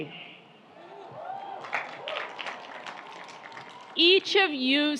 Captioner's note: audience applauds